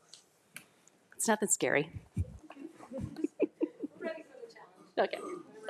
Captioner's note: group laughs